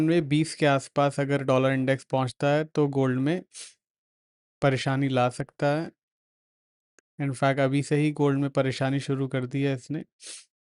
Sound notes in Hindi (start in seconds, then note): 3.5 नाक से की जाने वाली आवाज़; 10.2 नाक से की जाने वाली आवाज़